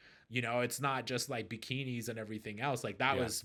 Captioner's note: none